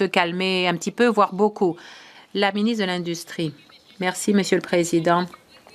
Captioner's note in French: voix de l'interprète